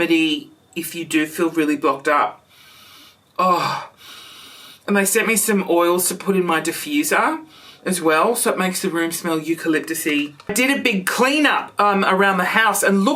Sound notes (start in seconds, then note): 3.6 sniffs